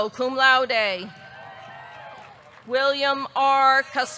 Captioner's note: audience cheering; audience clapping